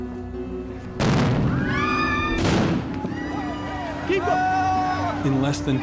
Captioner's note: explosions and yelling